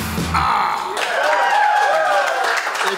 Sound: cheering & Clapping

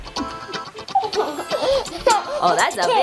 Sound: giggling

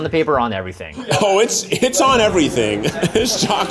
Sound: laughs

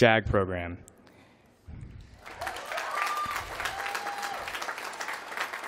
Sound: applause

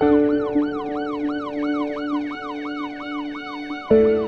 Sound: police Sirens Blaring

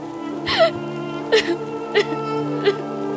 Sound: heavy rain sounds

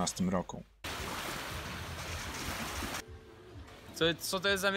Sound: the sound of water

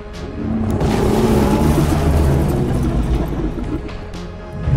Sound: gate crashing; Albertosaurus growling

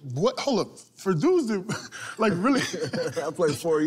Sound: laughter

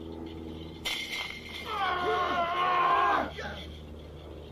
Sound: roaring

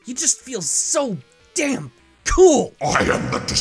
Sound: none

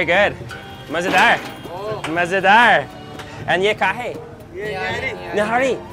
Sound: speaking in foreign language

